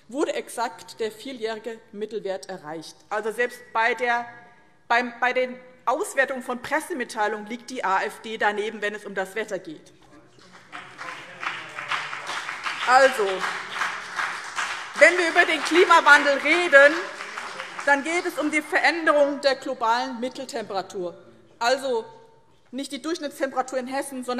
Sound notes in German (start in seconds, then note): 10.3 Beifall BÜNDNIS 90/DIE GRÜNEN und SPD